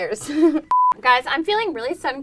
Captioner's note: beep